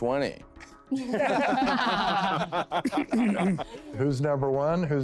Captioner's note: laughing